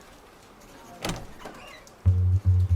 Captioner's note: crowd noise; door opens